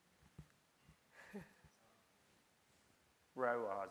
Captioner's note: chuckles